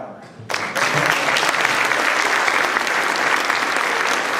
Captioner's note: applause